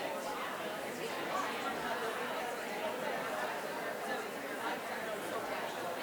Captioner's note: people quietly speaking